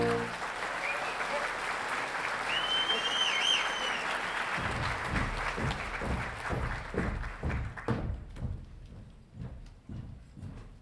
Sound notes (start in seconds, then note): 0.0 audience applauding; 4.6 footsteps marching